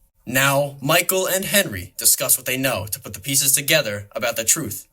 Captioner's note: none